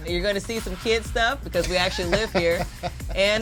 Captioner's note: laughs